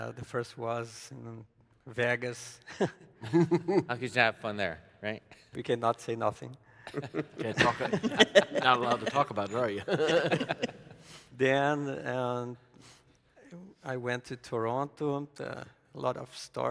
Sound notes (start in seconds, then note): 3.2 chuckles; 10.2 panelists laughing